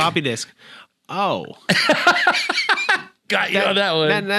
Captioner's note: laughing